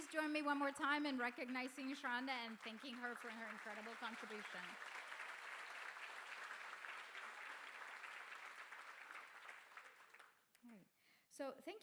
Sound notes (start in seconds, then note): 5.2 crowd applauding